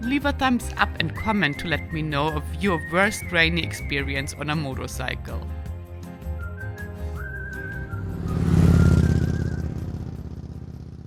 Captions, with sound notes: leave a thumbs up and comment to let me know of your worst raining experience on a motorcycle. (peppy music) (motorcycle passes)